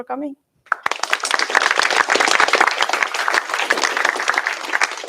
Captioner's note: applause